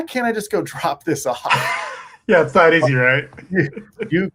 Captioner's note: chuckles